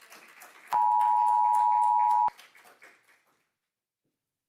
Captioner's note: audience applauding